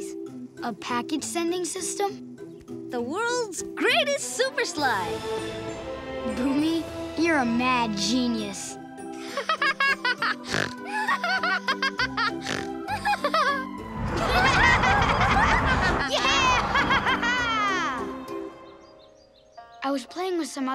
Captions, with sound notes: A package sending system? The world's greatest super slide. Bumi, you're a mad genius. [laughing, snorting] [laughing] Yeah! [laughing] I was playing with some other kids